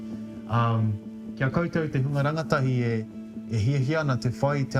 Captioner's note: speaks te reo māori